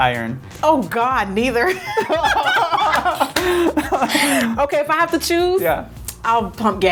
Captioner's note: laughs